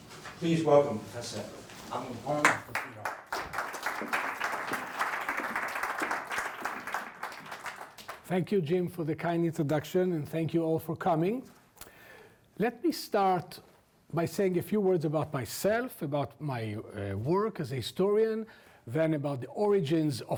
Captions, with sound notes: Please welcome Prof. Alon Confino. (audience clapping) - Thank you, Jim, for the kind introduction and thank you all for coming. Let me start by saying a few words about myself about my work as a historian then about the origins